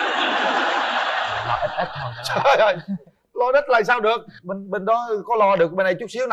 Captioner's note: laughter